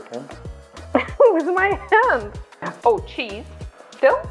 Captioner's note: laughs